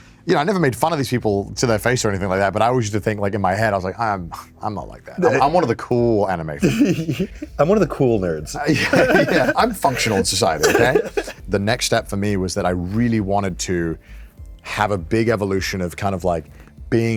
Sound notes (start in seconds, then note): 6.6 giggles; 8.6 both giggle